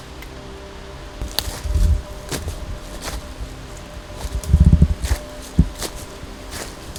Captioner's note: mysterious music; leaves crunching